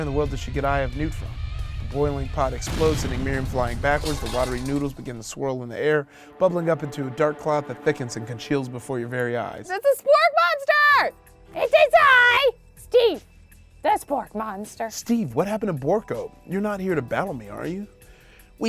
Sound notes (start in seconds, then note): 1.3 explosion booms